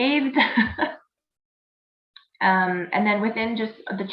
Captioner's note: laughing